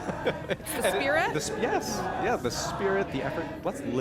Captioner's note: laughter